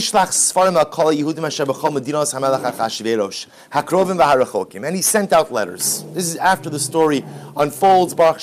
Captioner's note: Hebrew